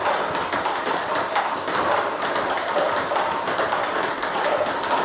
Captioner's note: ball ping pong hitting continues